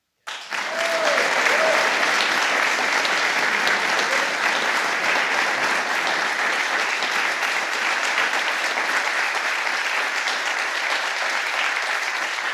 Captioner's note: applause